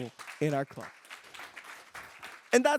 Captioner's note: applause